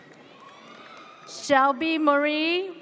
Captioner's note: audience cheers